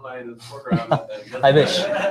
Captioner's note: laughter